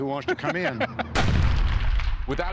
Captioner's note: laughs; explosion